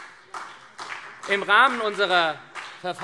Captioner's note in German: Beifall SPD